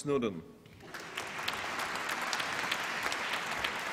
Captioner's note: applause